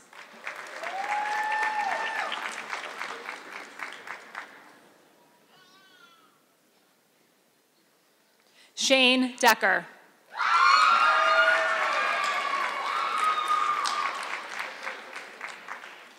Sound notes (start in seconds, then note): 0.0 audience clapping; 10.9 audience clapping